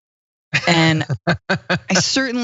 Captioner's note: laugh